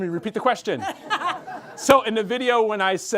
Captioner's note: group members laugh